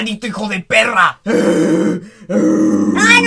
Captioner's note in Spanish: gruñidos